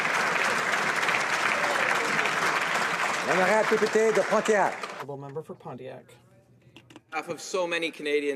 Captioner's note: applause